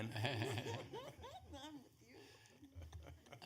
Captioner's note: laughter